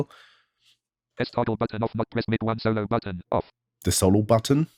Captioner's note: automated voice